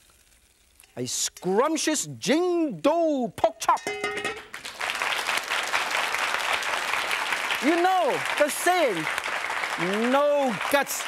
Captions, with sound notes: A scrumptious Jing Du pork chop. (Pan falling) (audience applause) You know the saying no gut and no glory,